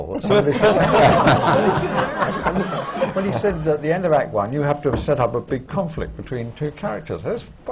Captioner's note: laughter